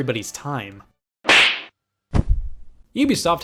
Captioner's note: slap